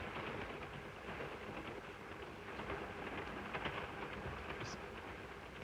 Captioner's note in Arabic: صوت خشخشة القطار